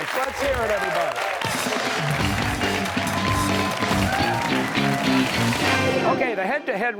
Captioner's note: cheers and applause